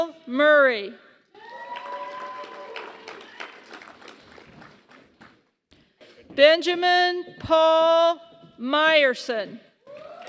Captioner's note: applause; applause